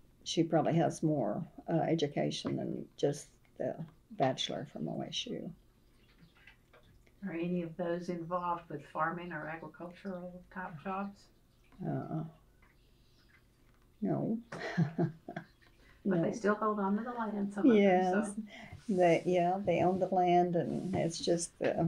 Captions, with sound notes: she probably has more education than just the bachelor’s from OSU. Are any of those involved with farming or agricultural type jobs? (Laughs) No. But they still hold onto the land, some of them. Yes, they own the land, and that’s just